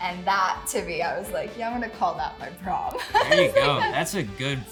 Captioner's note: chuckles